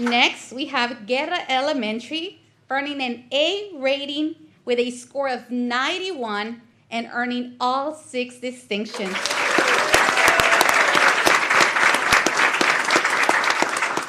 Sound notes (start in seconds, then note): 8.9 applause